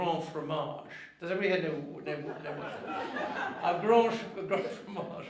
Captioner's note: audience laughing